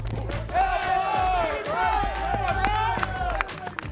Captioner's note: cheering